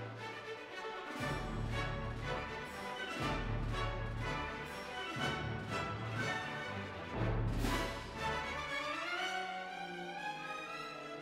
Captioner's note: applause